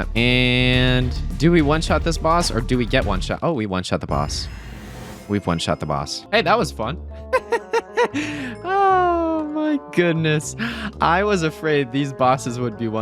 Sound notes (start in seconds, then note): 7.3 laughs